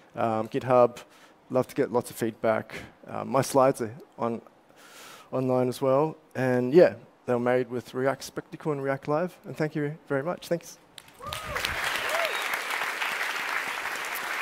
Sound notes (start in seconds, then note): 10.9 applause